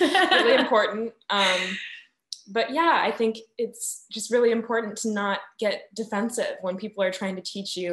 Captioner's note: laughing